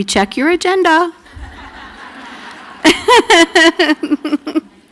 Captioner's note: laughter